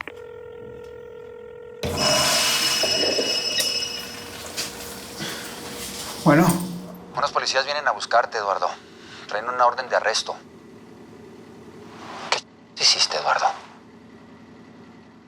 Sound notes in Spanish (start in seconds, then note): 1.8 Suena el teléfono